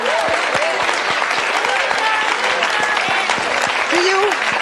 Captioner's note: audience applauding